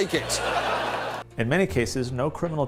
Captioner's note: audience laughs